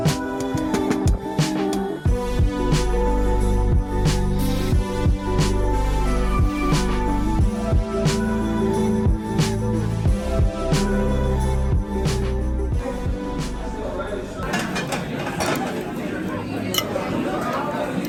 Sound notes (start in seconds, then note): 2.6 relaxing music continues; 12.6 background crowd chatter; 14.4 plates clattering